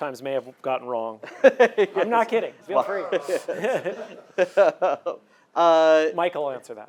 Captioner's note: laughs